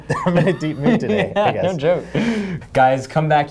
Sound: laughs

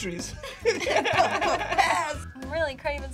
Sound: both laugh

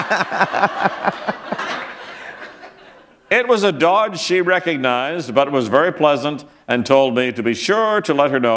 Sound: laughter

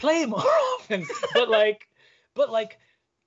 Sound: laughing

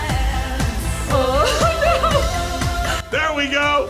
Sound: laughs

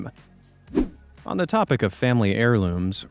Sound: swoosh

